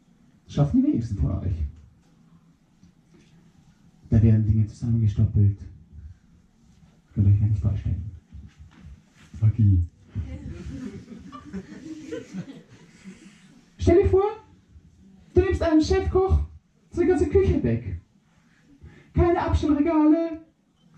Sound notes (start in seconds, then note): 10.2 solitary giggling